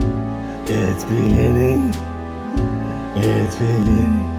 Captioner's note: scary monster sound